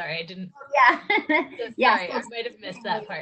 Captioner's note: laughs